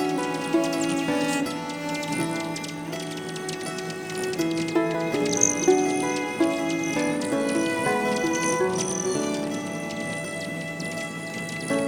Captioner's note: birds chirping & music